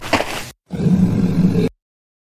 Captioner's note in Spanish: FX - Footsteps - On Multiple Dirt - Walk; FX - Beast Groan